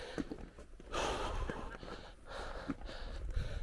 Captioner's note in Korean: 숨고르는중